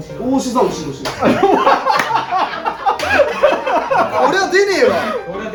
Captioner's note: laughs